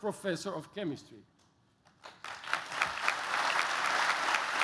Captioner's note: applause